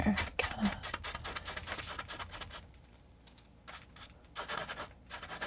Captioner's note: scratching